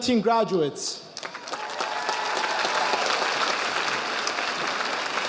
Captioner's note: audience applauding